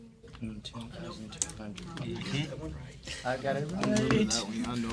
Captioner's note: students murmur